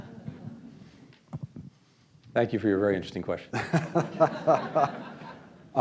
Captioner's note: laughter